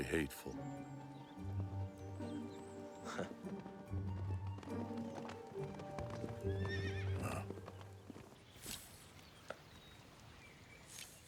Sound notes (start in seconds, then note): 3.0 chuckles; 6.4 horse whinnies